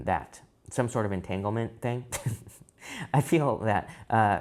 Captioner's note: chuckles